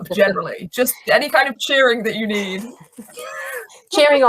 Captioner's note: laughs